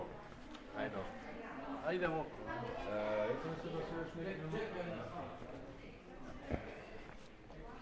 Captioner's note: background chatter